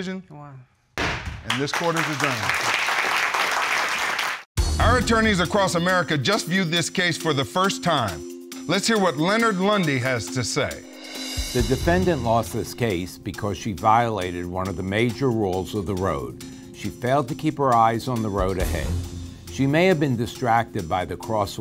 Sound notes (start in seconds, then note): 2.3 bangs gavel; 3.8 audience applauding